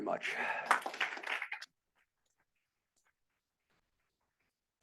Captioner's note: students applauding